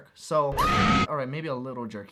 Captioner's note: screaming